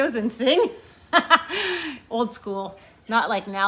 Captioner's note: laughs